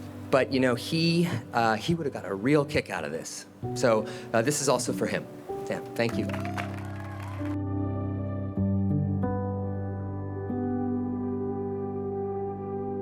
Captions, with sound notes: But you know, he would've got a real kick out of this. So this is also for him. Yeah, thank you. (attendees applaud) (poignant music)